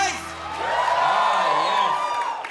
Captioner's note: audience cheers